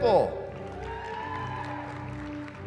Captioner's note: cheering